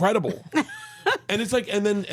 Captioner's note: laughs